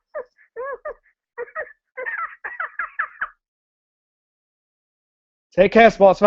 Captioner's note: Elmo makes a noise